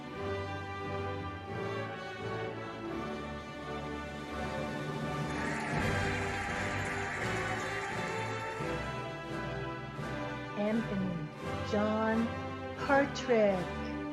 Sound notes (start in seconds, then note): 4.6 cheering and applauding